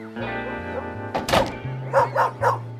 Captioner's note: barking